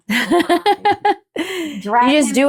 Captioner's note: laughing